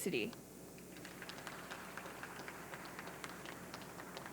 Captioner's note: audience clapping